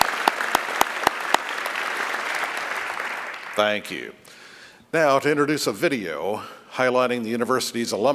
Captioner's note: applause